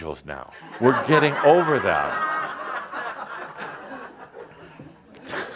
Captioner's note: laughter